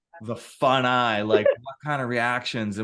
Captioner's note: laughing